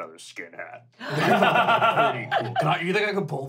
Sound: laughing

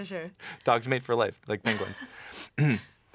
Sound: clears throat

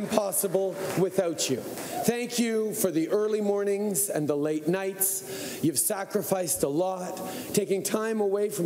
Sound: cheering and Applause

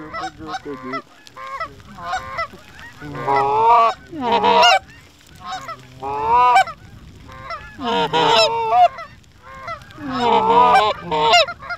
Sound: goose Calling

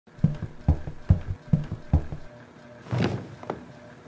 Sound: footsteps

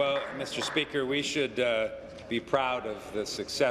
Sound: applause

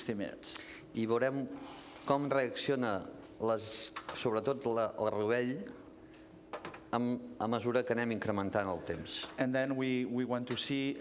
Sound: speaking catalan

